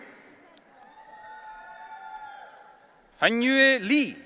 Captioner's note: audience cheering